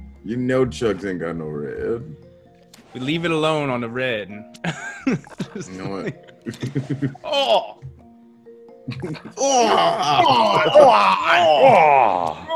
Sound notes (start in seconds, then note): 6.1 laugh